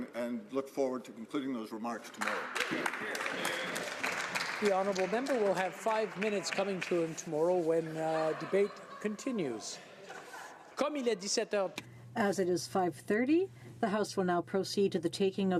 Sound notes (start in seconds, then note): 7.2 some Applause; 15.4 speaking French